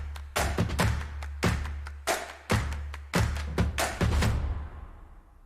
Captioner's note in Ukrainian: оплески